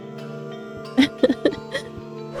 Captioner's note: laughs